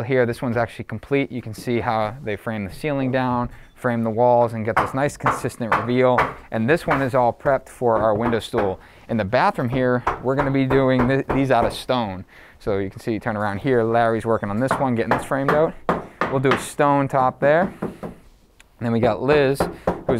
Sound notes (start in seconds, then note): 4.7 nail being hammered